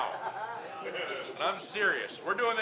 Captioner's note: group chuckles